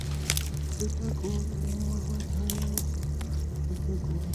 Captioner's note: chanting continues